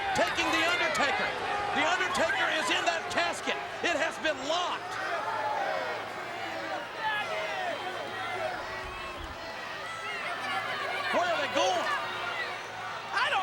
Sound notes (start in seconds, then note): 5.6 crowd clamors